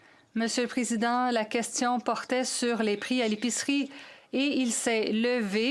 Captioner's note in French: voix de l'interprète